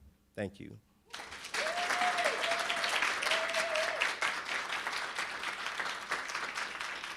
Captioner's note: audience cheering and applauding